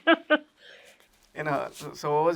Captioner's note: sniffs